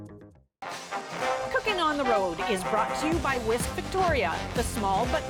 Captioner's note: announcer voice